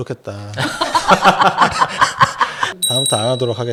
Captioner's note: laughter, laughter, laughter